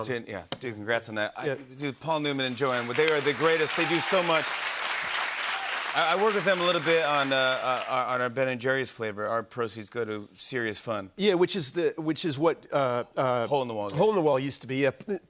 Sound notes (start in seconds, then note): 2.6 cheers and applause